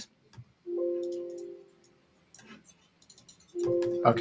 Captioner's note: computer dings